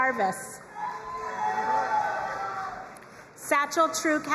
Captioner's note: crowd cheering and applauding